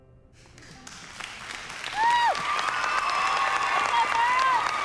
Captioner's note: cheering and applause